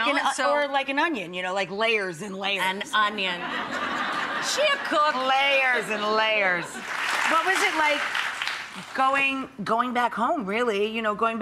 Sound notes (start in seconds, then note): 3.3 audience laughing; 6.7 audience clapping